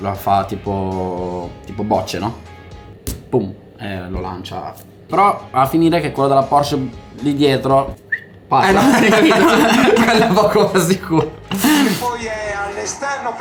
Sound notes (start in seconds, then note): 8.6 laughters